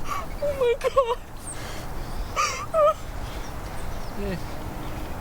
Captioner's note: crying